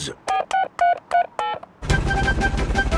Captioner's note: dialing